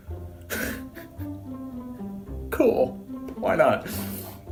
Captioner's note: laugh